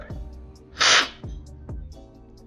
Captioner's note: slurping